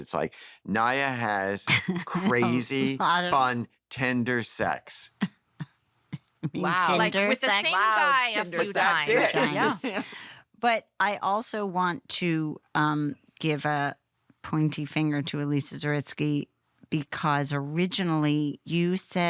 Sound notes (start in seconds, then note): 6.2 chuckles